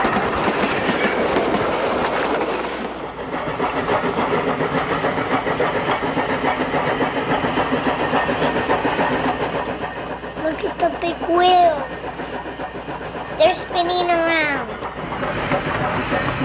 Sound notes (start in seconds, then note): 3.9 train whirs; 3.9 train whistles